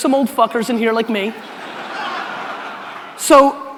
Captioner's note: audience laughter